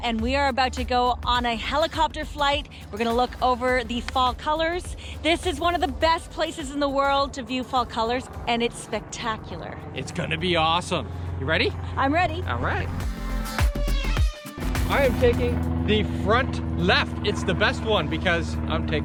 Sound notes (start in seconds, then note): 14.6 plane engine rolling